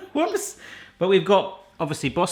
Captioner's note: laughs